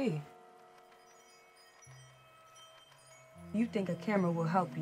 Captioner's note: chimes jingle